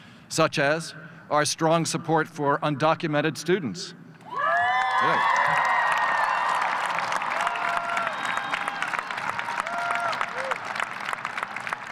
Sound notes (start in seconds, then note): 4.3 audience cheers